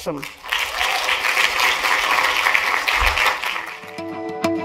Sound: applause

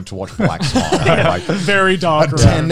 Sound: laugh

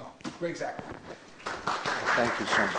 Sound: applause

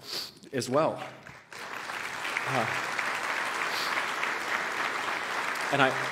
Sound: applause

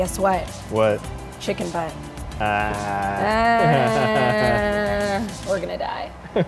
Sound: sarcastic laughter

